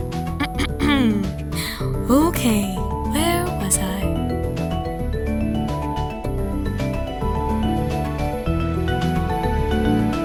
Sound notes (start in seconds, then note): 0.4 clears throat; 4.5 upbeat music